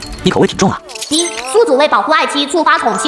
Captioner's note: ding!